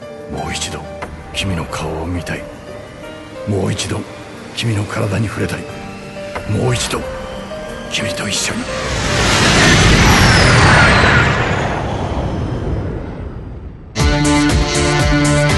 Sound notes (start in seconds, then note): 9.3 turbocycle continues on